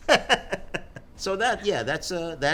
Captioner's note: laughing